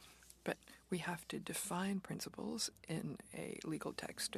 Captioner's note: speaking French